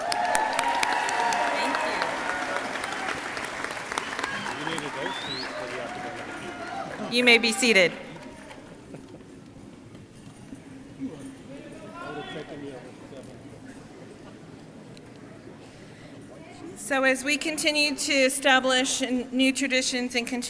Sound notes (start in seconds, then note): 0.2 crowd cheering and applauding; 5.0 faculty staff faintly speaking